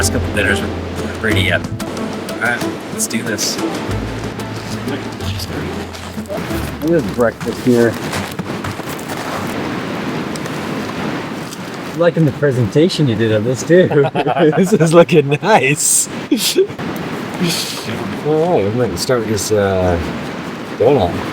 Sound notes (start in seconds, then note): 13.7 laughs